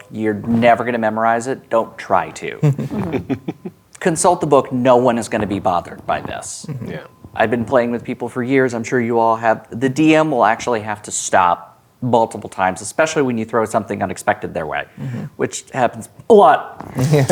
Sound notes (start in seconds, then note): 2.6 players laughing; 17.0 laughing